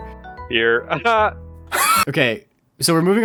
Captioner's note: wheeze